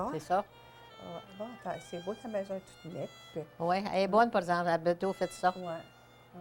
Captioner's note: women continue speaking in French